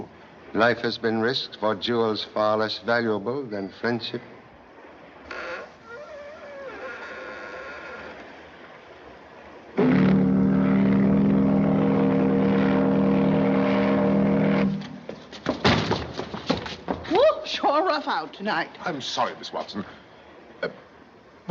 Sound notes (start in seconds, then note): 5.2 creaking; 9.8 horn Blowing